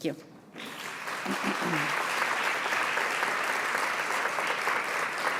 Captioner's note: audience applauding